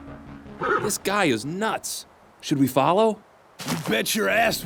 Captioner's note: B0NER neighs softly